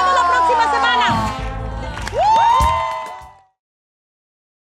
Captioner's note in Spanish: Ovación